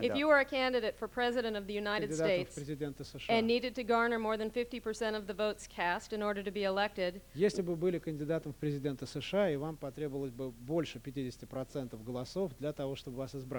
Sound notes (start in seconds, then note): 8.5 non-english speech